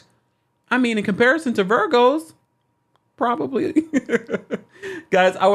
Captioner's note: laughs